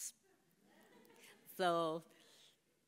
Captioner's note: laughs from the audience